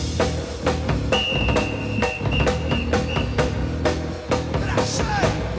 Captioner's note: whistle blows